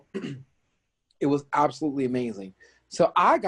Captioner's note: clears throat